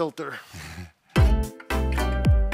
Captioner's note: chuckling; upbeat music